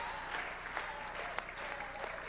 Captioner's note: applause